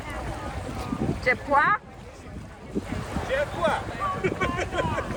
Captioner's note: laughs